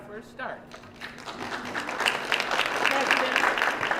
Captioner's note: applause